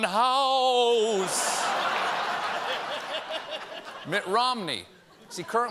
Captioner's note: laughter